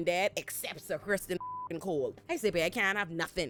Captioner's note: beep